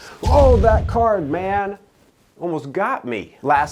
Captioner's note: fireball roars